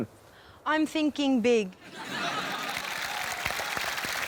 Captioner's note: laughter, applause